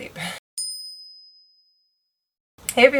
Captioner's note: bell chimes